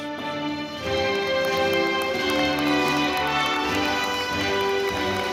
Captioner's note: audience applauding